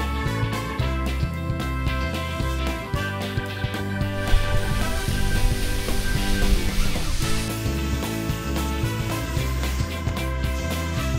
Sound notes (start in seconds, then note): none